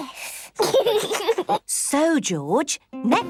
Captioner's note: giggles